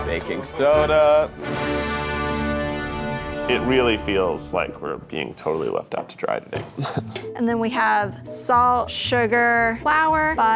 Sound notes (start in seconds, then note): 1.6 dramatic music; 6.7 laughs